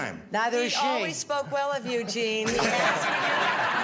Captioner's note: laughter